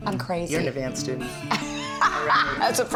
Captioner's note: laughter